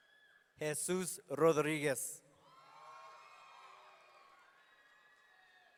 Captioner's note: audience cheering